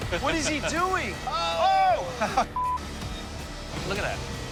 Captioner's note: laughs